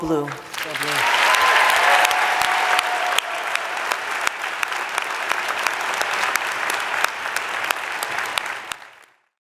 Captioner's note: applause